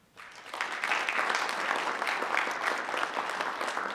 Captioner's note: group applauds